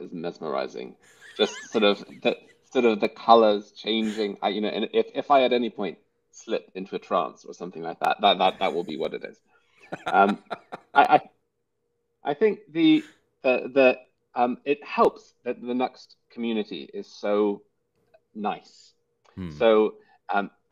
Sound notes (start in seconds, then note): 9.8 laughter